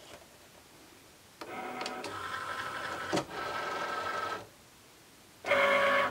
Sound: machine whirs and beeps

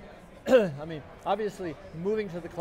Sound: coughs

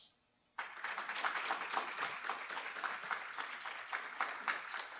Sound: audience applauding

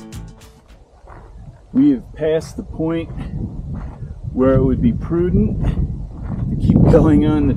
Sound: gravel crunching underfoot

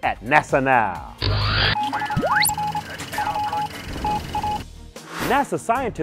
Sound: sound Effects

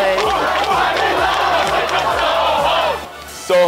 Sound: SoHo cohort chanting

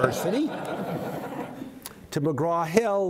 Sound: audience laughs

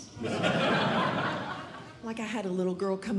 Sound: audience Laughing

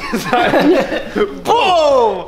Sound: both laughing

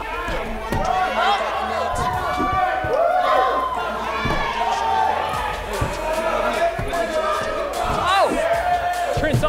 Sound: crowd cheering

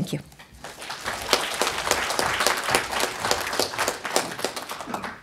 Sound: audience applauding

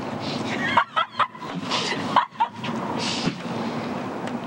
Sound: laughter

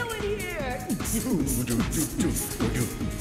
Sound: humming

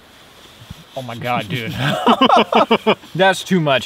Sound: both laughing

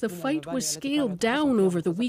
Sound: speaking Foreign Language

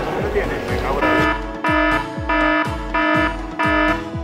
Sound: alarm sound effect

